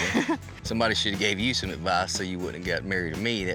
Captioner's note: giggles